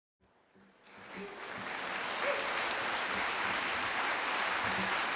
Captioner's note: audience applauding